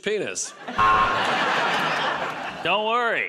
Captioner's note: buzzer